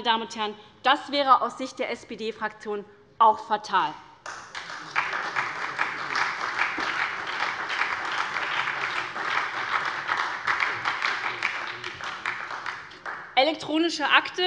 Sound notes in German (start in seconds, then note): 4.2 Beifall bei der SPD